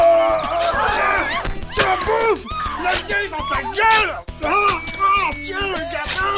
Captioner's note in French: Cri de rage; cris et bruits d'épée